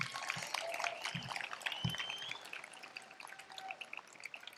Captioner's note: applause